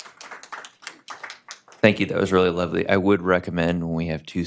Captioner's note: applause